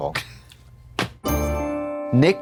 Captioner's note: Trixie rattles; bright chime